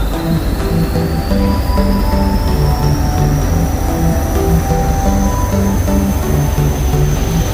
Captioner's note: purring of diesel engine